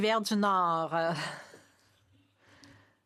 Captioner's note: speaking French